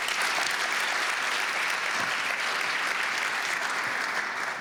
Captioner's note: applause